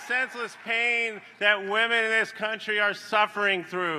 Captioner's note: applause